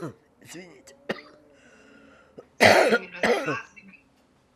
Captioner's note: coughing; coughing